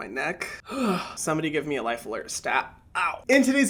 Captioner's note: groans